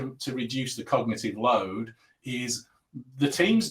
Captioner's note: abbreviated speech